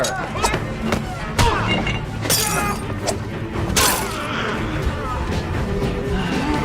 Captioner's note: men grunting; glass shattering